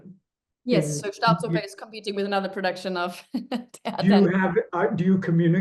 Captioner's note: laughs